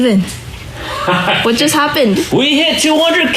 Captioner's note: laughing